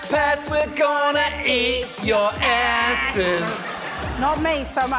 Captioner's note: laughter